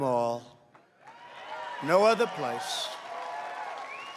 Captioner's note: applause